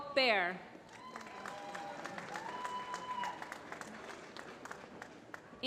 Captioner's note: applause